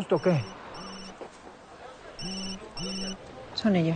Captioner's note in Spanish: Suena el celular